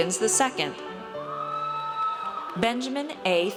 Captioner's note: audience cheers